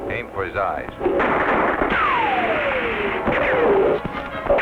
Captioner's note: guns firing